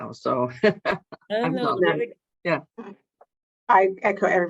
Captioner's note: laughs